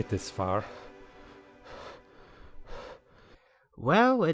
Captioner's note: heavy breathing